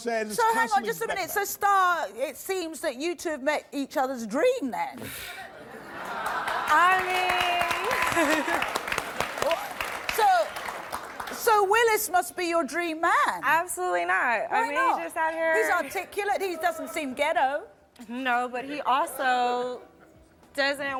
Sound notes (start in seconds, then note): 5.5 crowd laughs; 7.9 giggles